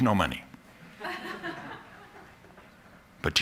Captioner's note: laughter